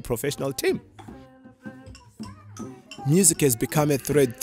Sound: musician humming; xylophone tinkling; drum beating

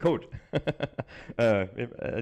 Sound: laughs

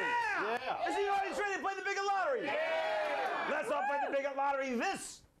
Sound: audience cheering

